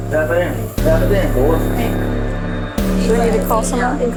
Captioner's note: inhales deeply